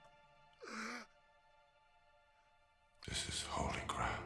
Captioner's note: baby crying